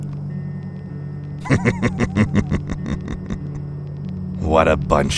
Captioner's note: Houston chuckles quietly